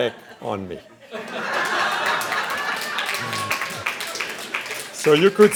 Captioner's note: laughing and clapping